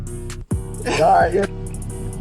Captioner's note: laughing